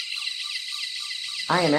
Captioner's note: machine whirring